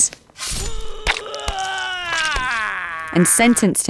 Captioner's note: Samson screaming